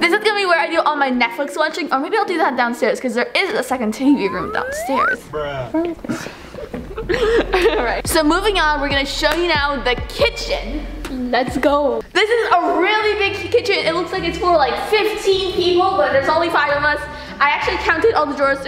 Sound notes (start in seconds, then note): 3.9 laughing